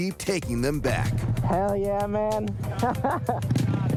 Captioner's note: laughs